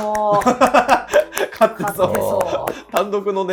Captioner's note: laughing